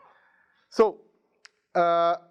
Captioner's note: none